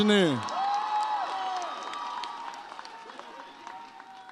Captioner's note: audience cheers